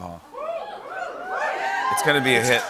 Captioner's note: cheers